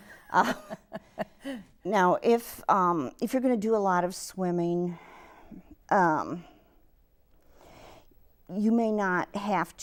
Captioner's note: laughs